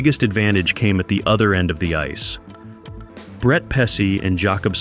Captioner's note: confident